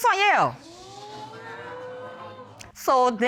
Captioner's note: audience exclaiming